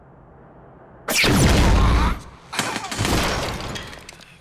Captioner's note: gunshot